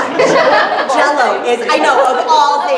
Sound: laughter

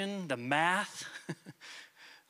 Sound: chuckles

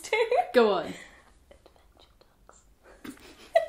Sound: whispering; laughing

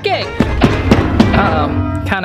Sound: banging

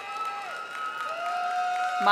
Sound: audience applauding and cheering

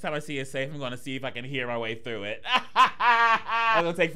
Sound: laughing

